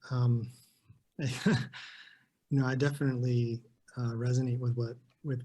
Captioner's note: chuckles